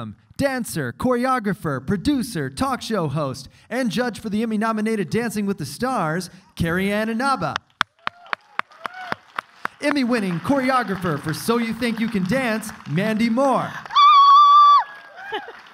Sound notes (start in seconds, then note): 8.5 clapping